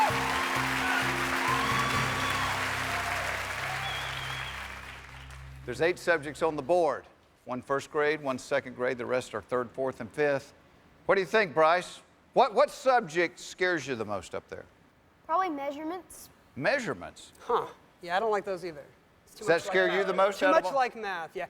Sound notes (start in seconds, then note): 4.2 cheers and applause